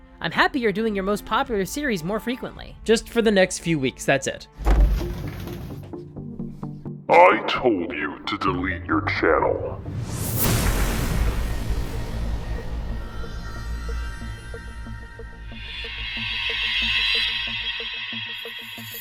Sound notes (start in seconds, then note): 4.6 door slams open; 9.9 zap!; 18.8 trill